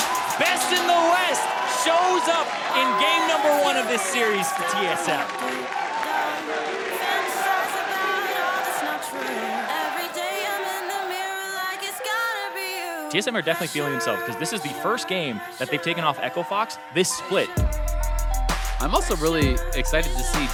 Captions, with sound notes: Best in the West shows up in game number one of this series for TSM. [Crowd chanting "TSM"] TSM are definitely feeling themselves because this is the first game that they've taken off Echo Fox this split. I'm also really excited to see